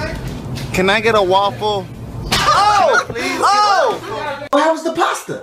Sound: laughs; woman screams

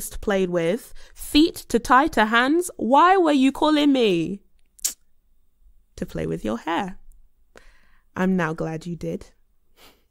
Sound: kisses teeth

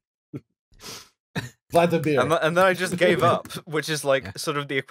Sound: laughter

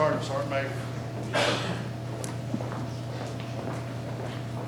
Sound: marching

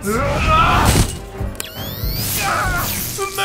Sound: electric shocks

